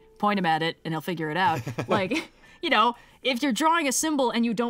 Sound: laughs

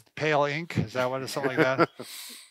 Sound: laughing

